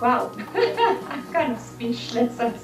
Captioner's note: laughter